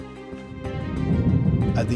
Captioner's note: explosion